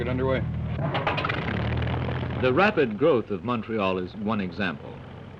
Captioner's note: engine sputters to life